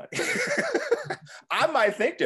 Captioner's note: laughing